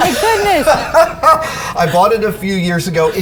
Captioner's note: Adam laughing